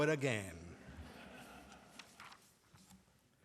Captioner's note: laughter